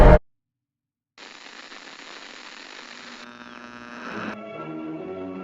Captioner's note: old radio tuning; dramatic music